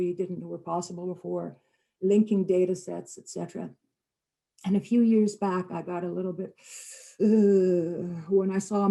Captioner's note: harsh intake of breath